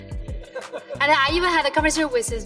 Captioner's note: audience laughs